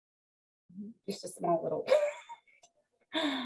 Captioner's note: laughs